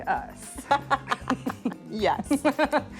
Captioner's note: laughs